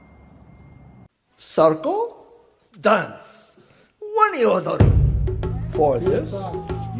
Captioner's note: man speaks in foreign language